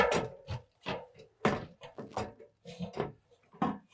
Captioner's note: ladder clanking